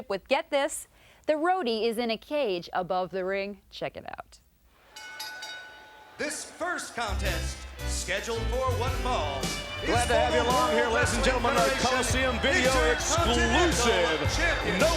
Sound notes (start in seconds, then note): 5.3 audience chattering; 5.3 bell rings